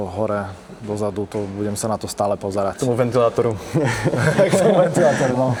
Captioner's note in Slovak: smiech